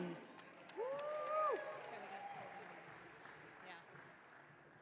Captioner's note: audience cheering